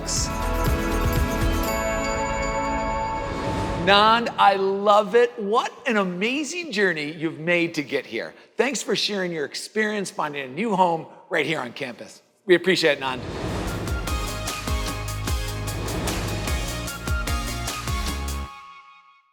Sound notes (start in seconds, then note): 0.0 bright music; 3.2 air swooshing; 13.6 upbeat music